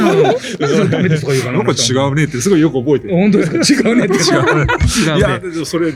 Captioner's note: laughs